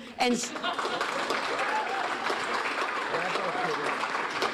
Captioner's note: audience applauding